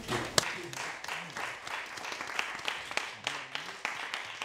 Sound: audience applauding

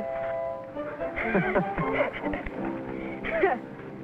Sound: laughing

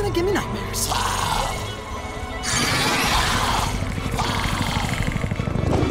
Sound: growling

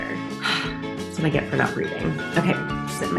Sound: sighs

